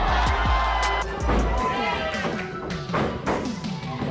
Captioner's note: crowd cheering; thumping